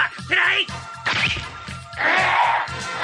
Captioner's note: SFX: sword strokes